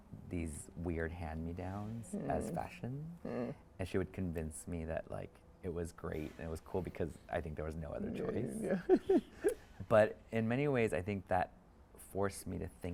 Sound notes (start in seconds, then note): 8.1 chuckles